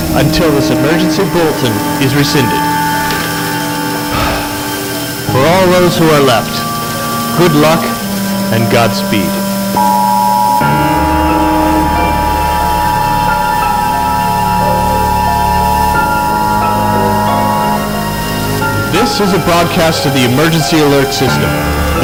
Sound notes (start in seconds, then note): 4.1 sigh; 9.6 emergency Alert System Sound